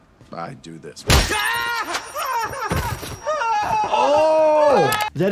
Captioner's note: person screams